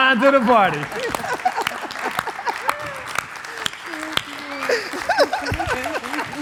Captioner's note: audience clapping; laughing